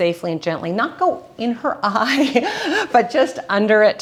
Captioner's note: laughs